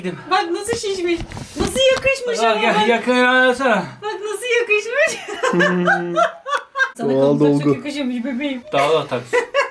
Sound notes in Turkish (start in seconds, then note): 5.0 Gülüyor